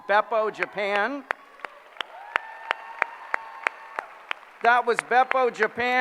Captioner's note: applause